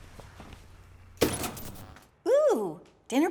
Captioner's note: electrical buzzing